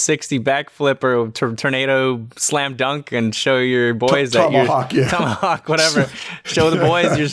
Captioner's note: chuckles